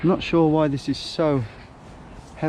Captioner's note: none